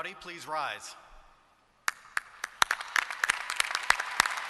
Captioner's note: applause